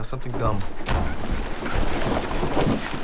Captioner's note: door Closes